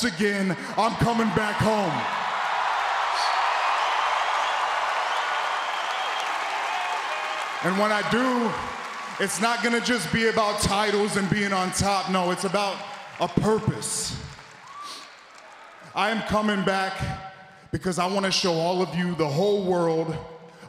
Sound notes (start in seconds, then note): 2.2 applause